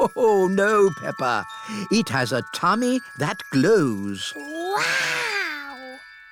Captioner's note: laughs